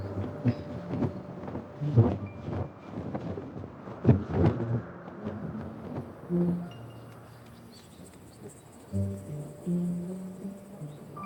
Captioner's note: footsteps